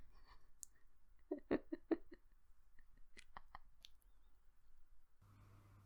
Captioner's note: quiet laughing